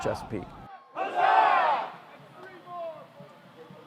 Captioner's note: cheering